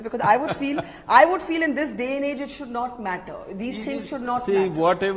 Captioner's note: Sadhguru laughs